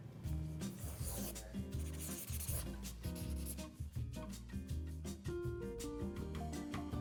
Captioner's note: bright music; pen scratching